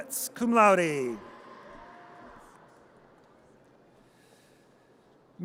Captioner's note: audience cheers